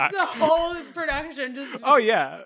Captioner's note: trails off